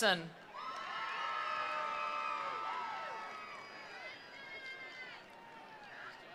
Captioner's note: attendees cheering; attendees applauding